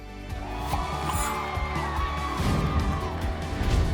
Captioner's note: people cheering; upbeat music